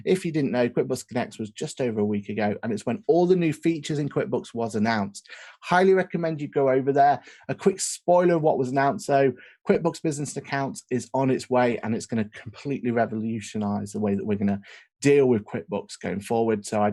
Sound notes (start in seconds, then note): none